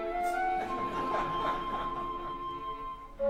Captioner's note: laughter